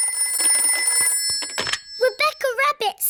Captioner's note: phone rings